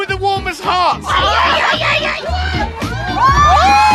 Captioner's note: crowd yelling "Yeah yeah yeah!"